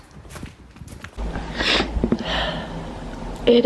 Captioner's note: sniffles